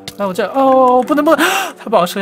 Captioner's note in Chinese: 吸氣